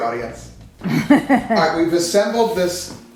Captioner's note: woman laughing